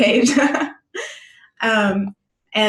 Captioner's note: luaghing